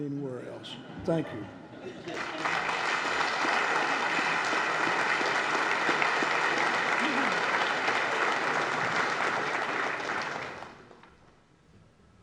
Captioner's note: applause